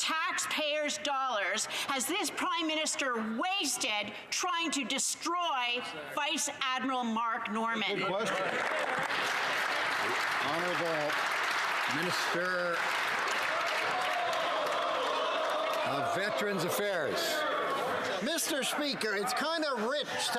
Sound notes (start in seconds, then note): 12.4 some Applause